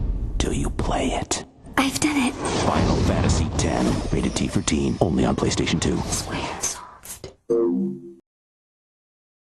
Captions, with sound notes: Till you play it. - I've done it. - "Final Fantasy X." Rated T for Teen. Only on PlayStation 2. - Squaresoft. [whooshes]